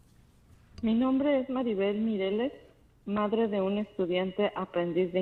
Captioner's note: speaking Spanish